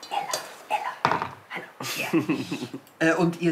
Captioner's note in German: flüstert